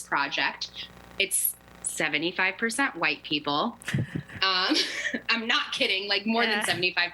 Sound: laughter

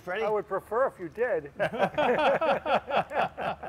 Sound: laughter

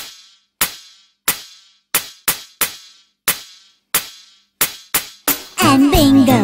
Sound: clap

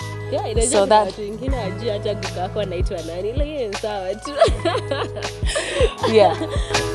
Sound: laugh

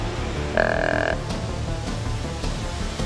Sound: buck grunt

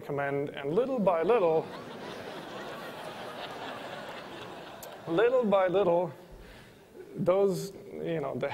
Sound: laughter

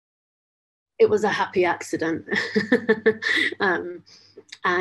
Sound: laughs

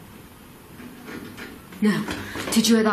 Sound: scratching on wall

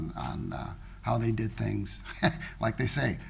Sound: chuckles

